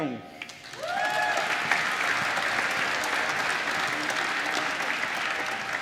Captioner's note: applause